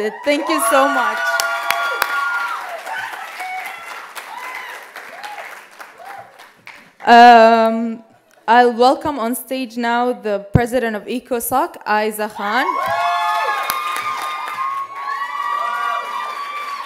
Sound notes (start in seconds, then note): 2.4 loud cheers; 12.4 loud cheers